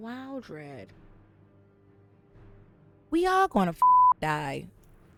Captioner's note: beep